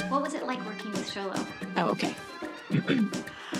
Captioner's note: clears throat